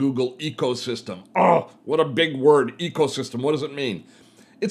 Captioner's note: groaning